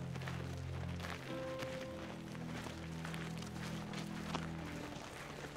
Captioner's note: footsteps crunching